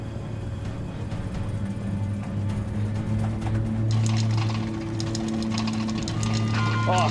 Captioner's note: airplane engine roaring; sinister music; alarm beeping